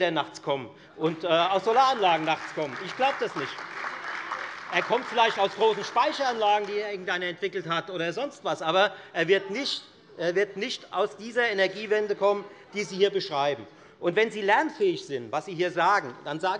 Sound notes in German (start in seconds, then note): 6.0 Beifall Freie Demokraten und AfD